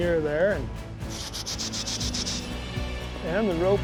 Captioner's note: shushing